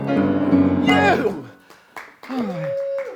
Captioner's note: applause